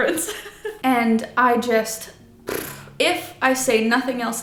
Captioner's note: blows raspberry